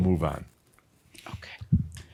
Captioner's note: whispers